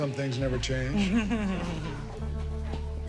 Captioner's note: laughing